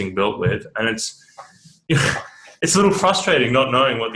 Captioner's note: laughs